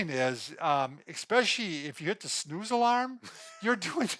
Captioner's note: laughs